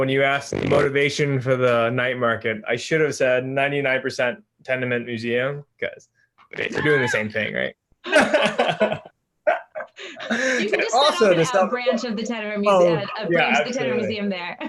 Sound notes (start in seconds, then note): 8.1 everyone laughs; 14.2 laughs